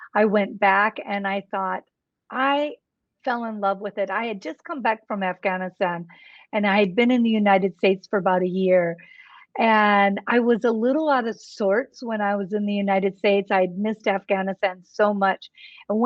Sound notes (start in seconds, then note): none